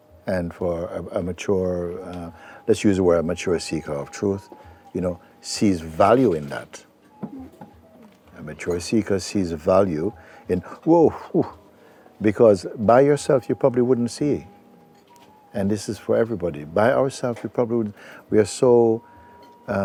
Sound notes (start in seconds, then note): 10.1 exhales